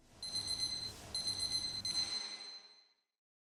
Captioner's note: alarm beeping